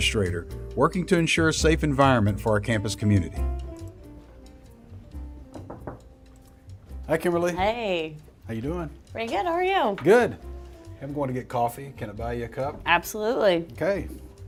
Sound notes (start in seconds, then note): 5.5 knocking